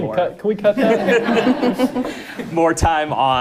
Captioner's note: audience laughing